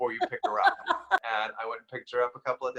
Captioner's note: laughs